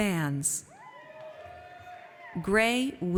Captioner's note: audience cheers